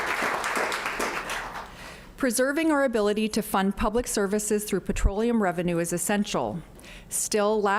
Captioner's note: applause